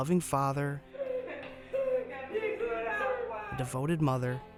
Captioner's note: playful laughter